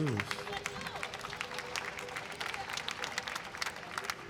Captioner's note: audience applauding